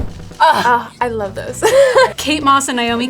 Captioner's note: laughs